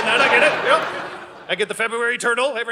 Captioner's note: audience laughing